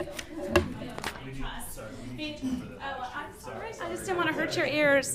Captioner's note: all laughing